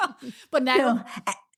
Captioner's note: laughs